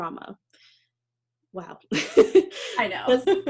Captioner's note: laughs